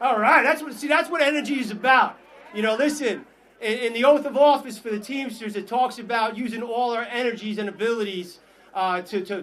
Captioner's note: applause